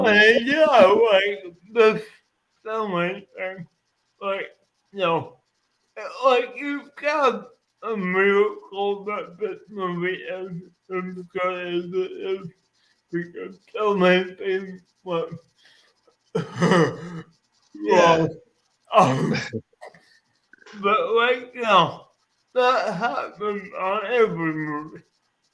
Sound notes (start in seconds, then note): 16.3 laughing